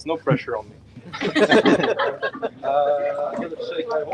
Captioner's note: laughter